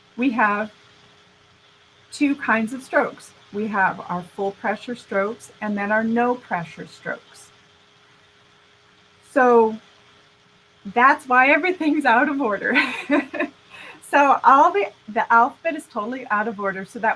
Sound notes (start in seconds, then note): 12.7 laughing